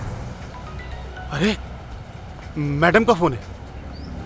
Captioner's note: Phone ringing